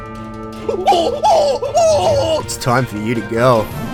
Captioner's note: monkey noises